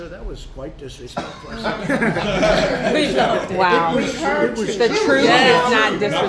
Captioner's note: laughter